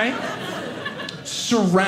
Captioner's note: audience laughing